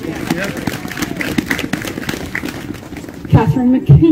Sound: applause

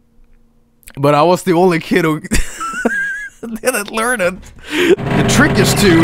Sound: another wheeze; wheeze

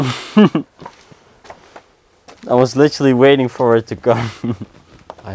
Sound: laughs

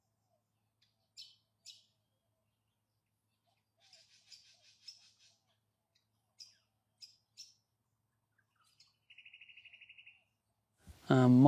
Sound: bush noises, birds singing. sitting quietly looking into the camera

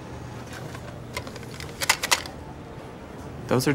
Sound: mints rattling

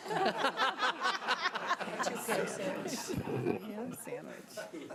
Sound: audience laughing

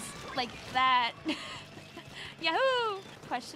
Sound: laughing

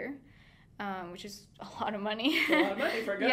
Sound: laughing

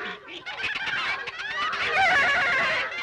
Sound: loud Animal Noises

